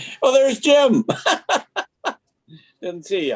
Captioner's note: members laughing; laughing